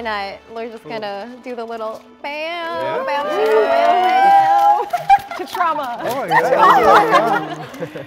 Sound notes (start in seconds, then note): 2.7 group cheering; 6.0 group laughing; 6.1 laughs